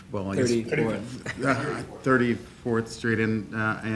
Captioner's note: laughing